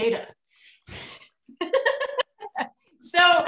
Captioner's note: chuckles